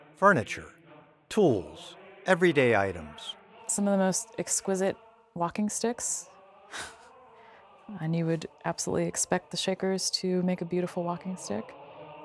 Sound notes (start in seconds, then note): 6.7 chuckles; 12.0 spiritual madrigal music